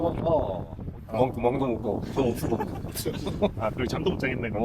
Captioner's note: laughs